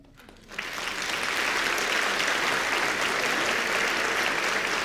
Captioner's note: audience applauds